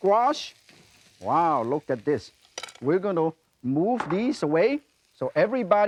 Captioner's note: none